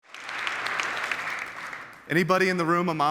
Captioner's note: audience applauds